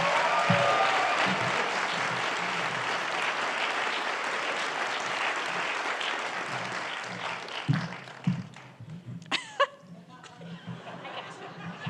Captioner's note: applause